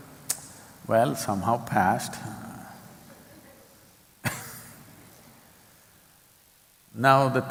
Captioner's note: laughs